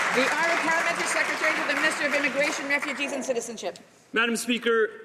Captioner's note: some Applause